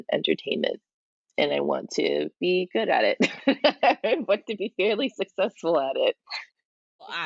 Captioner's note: laughs